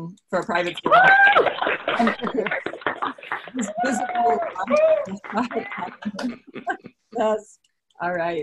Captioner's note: applause